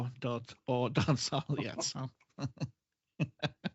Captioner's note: laughs